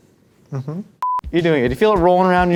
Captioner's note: high pitched beep